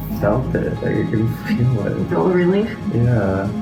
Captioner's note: laughs